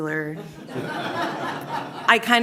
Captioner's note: laughter